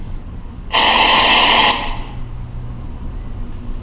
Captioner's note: static